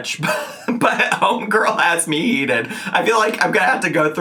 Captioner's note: chuckling